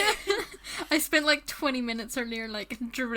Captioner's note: hosts laugh